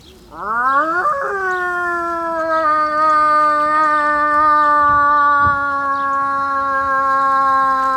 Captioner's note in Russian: подзывает волков воем - слышен ответный вой